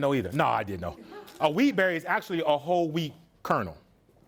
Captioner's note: student laughs